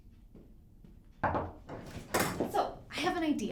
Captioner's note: door knocking